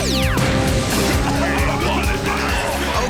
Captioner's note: coughing